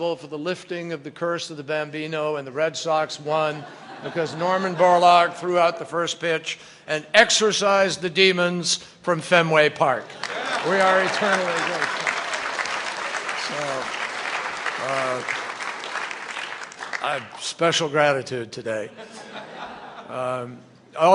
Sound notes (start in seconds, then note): 14.8 applause; 18.9 laughter